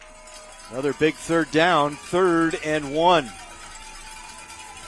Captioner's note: applause